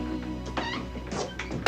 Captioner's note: door clatters